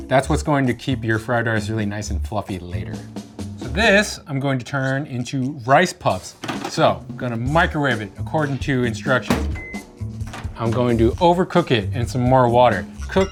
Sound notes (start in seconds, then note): 9.2 microwave beeping